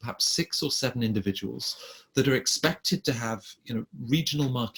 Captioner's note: none